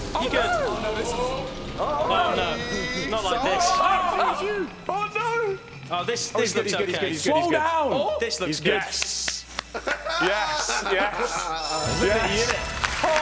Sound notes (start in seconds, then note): 1.8 chattering; 11.6 chiming